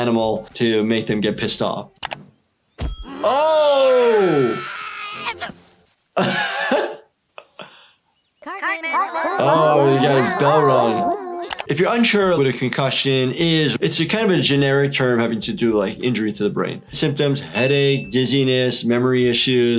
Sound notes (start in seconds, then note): 3.1 Eric screaming; 6.2 laughing